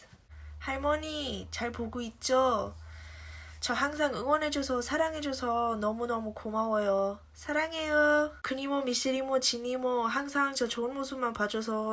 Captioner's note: non-english speech